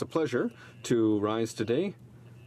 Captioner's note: speaking in French